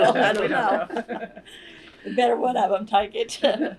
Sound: laughter

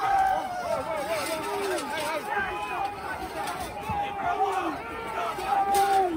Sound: chanting

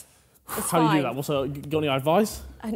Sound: Harry sighs

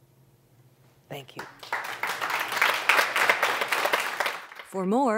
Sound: applause

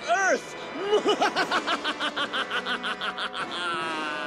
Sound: evil laugh

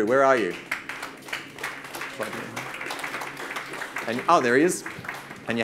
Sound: audience claps

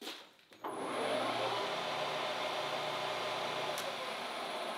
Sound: machine whirring

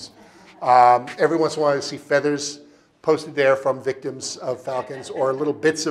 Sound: audience laughing

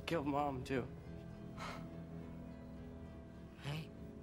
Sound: EXHALlNG

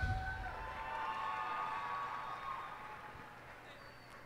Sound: cheers and applause

